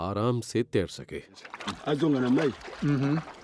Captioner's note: speaks foreign language